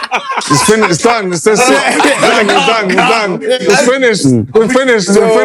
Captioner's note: laughter